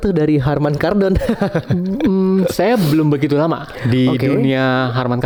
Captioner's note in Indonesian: tertawa